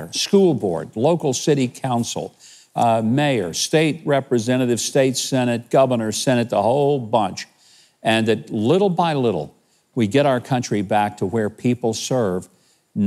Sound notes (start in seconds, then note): none